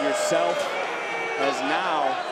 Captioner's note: crowd booing